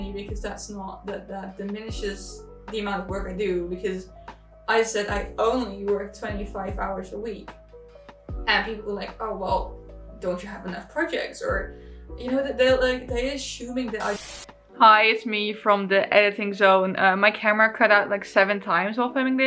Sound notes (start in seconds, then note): 14.0 TV static buzzes